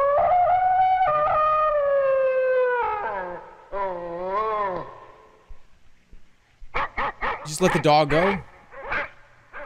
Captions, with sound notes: [dogs bark] You just let the dog go?